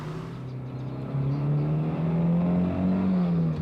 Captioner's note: sporty humming car engine